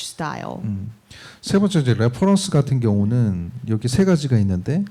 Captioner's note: speaking korean